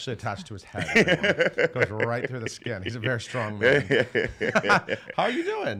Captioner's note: laughs